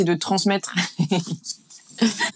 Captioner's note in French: rires